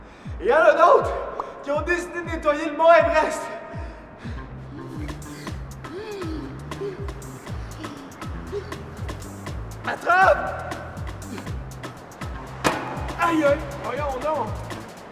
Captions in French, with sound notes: Et il y en a d'autres qui ont décidé de nettoyer le mont Everest! (halètements) Attrape! (fracas) - Ayoye! Voyons donc!